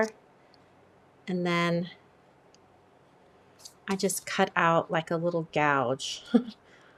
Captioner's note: laughs